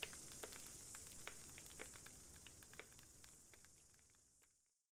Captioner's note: fire crackling and night insects buzzing